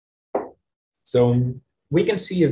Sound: table knocks

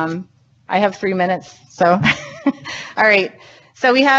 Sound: laughs

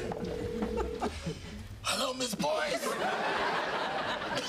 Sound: hoarse voice

